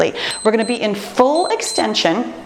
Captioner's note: timer beeps